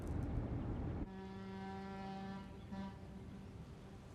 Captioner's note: boat horn blowing